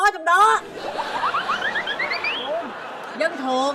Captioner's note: laughing